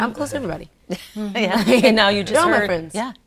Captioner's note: laughing